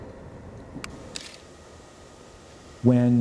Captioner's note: camera clicks